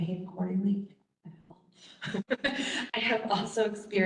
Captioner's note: laughs